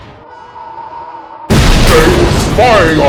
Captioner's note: crash